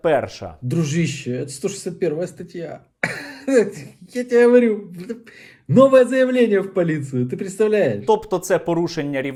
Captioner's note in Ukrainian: сміється